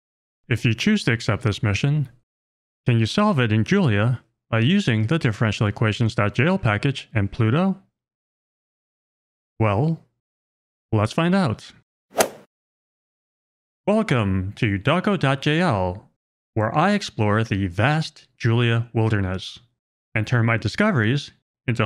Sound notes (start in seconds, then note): 12.2 golf ball hit sound